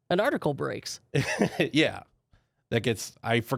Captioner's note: laughs